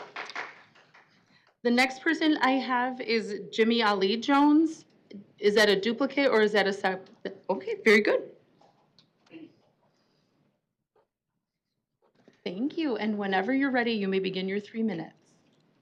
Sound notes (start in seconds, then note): 1.8 applause